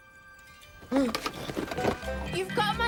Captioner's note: gasps